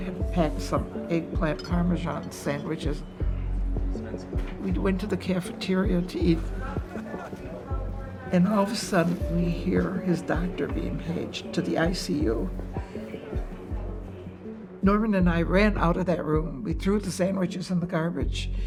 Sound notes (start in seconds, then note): 11.6 woman speaking on intercom